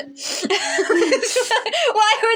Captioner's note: snicker; laugh